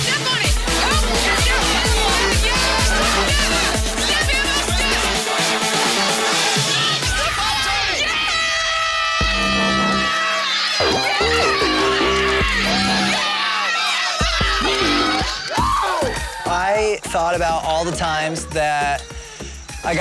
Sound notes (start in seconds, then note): 0.0 upbeat music; 0.2 crowd cheering; 8.5 crowd cheering; 8.5 horn blowing; 15.7 man screams